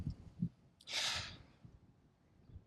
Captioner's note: subtle gasp